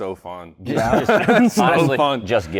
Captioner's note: laughs